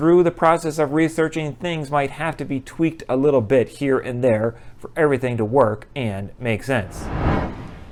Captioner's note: swoosh